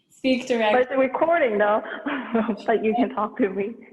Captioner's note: chuckles